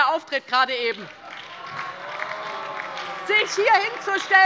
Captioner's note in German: Beifall bei der LINKEN - Unruhe bei der CDU und dem BÜNDNIS 90/DIE GRÜNEN